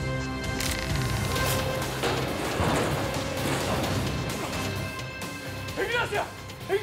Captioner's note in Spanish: Estruendo al caer el ascensor